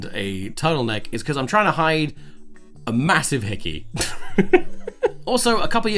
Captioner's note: laughs